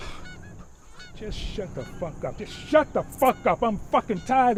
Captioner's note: sighs